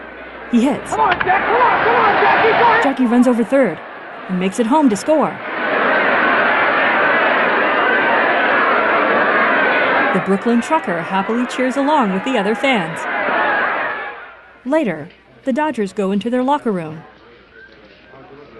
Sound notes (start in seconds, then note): 4.2 crowd cheering; 10.2 cheering continues; 15.4 indistinct conversations